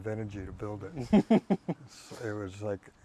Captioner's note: laughing